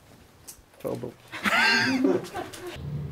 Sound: laughs

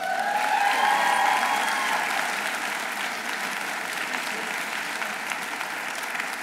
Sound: audience cheering; audience applauding

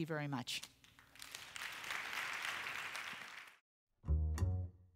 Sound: applause

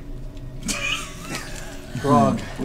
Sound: all laugh

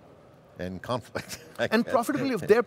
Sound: laughing

